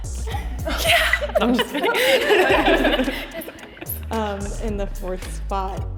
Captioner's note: all chuckling